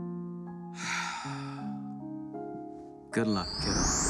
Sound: Lucifer sighs

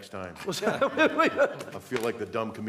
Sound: laughter

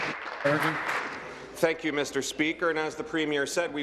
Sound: applause

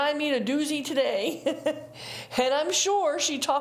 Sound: chuckles

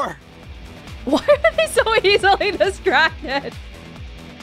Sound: chuckles

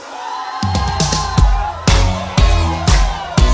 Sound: crowd cheering

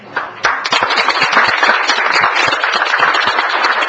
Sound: audience clapping

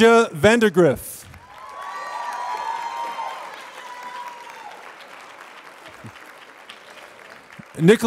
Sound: applause

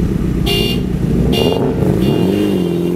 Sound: honking

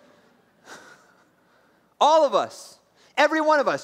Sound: laughs

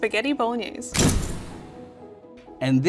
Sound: picture snapping

